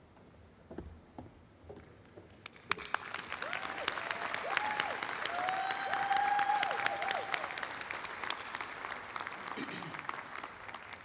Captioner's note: applause